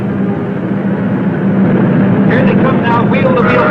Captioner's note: cars whirring